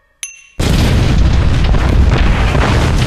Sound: water exploding

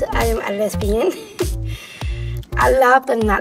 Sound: laughing

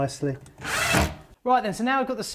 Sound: whirring

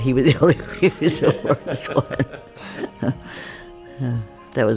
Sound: laughs; both laugh

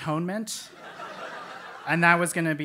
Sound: laugh

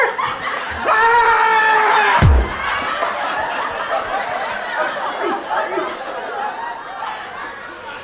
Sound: thud of cake smash

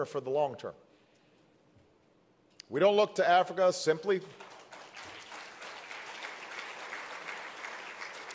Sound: applause

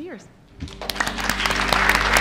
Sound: applause; cheering

